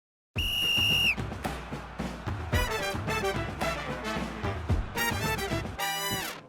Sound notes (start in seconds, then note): 0.3 whistle blowing; 0.3 jazzy music